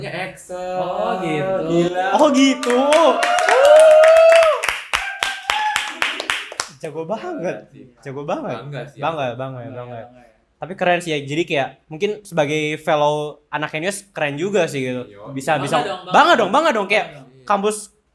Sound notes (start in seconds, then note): 2.5 claps